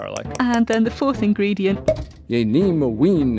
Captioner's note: speaking Old English